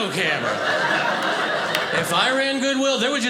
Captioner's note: audience laughing